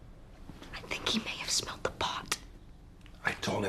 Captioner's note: WHlSPERlNG